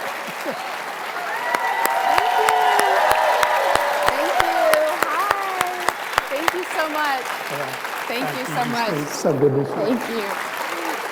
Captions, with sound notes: (audience cheering) - Thank you. Thank you. Hi, thank you so much. Thank you so much. - So good to see you. - Thank you.